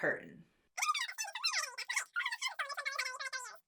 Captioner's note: voice speeds up